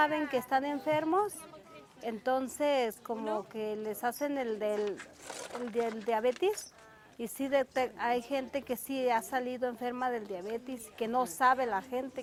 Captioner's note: foreign language spoken